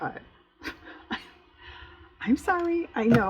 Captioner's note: laughs